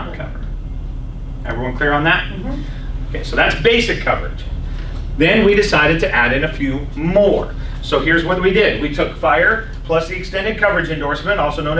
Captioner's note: laughs